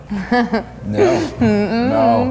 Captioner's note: chuckling